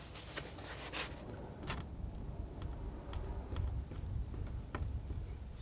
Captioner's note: scratching